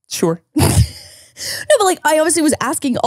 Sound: laughs

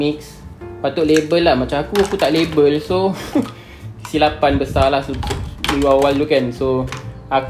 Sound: laughs

